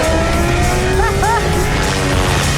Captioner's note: Emelia laughs